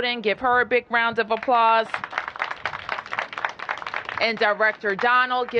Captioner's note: applause